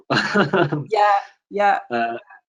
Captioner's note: laughing